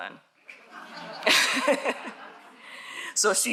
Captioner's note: audience laughs